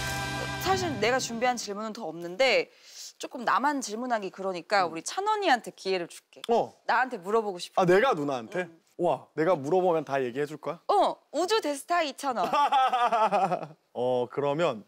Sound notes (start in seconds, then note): 12.5 bahahahaha